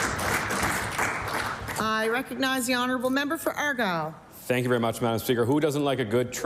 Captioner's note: applause